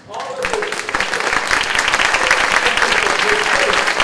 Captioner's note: clapping